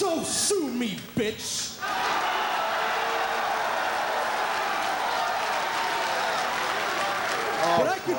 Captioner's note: applause